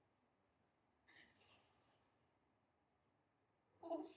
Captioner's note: gasping